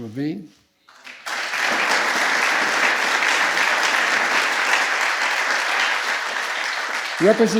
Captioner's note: applause